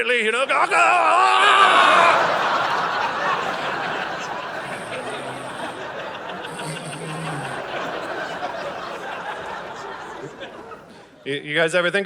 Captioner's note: audience laughing